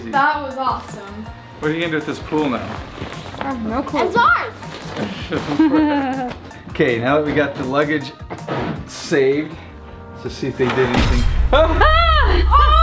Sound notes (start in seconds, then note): 5.0 chuckles; 11.6 shrieks